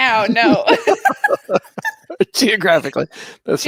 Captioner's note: laughing